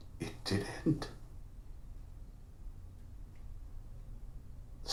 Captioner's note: none